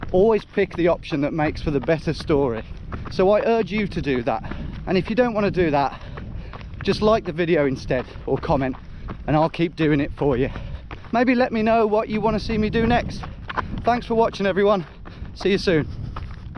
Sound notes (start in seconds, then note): none